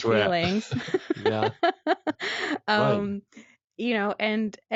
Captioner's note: laughs